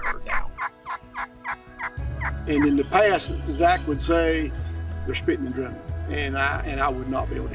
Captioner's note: turkey calling